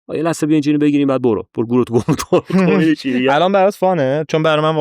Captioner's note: laughs